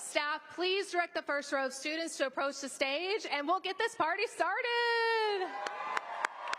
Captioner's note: applause